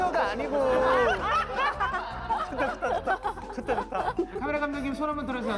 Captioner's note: laughing